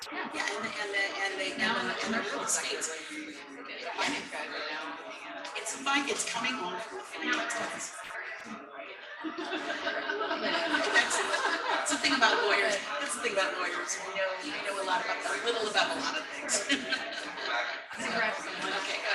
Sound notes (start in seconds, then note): 3.7 people chattering indistinctly; 7.7 people chattering indistinctly; 9.1 women laughing